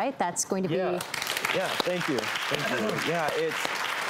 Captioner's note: crowd claps